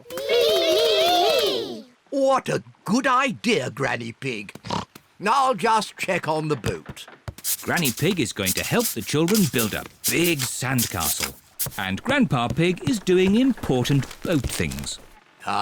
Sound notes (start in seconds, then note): 4.6 oinks